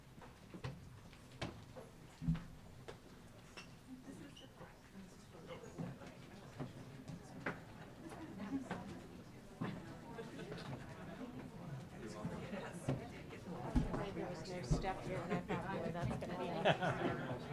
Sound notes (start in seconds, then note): 5.8 crowd murmuring; 14.5 crowd chatting